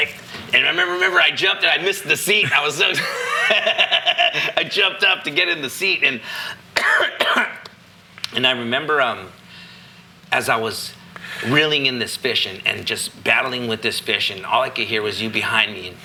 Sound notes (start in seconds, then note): 2.4 laughing